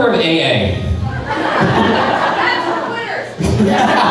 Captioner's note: crowd laughing